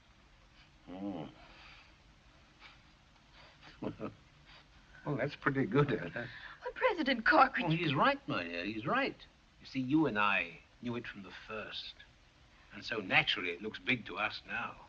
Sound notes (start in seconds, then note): 3.7 laughs